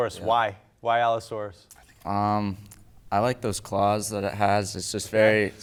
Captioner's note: none